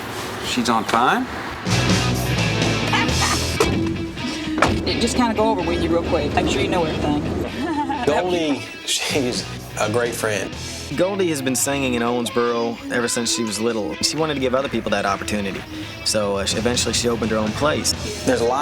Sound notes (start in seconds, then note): 1.7 rock music; 7.5 laughs